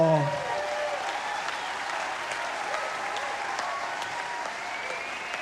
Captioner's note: audience cheering and applauding